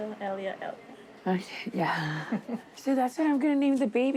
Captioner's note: chuckles